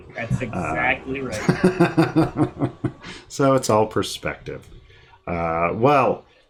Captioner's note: laughing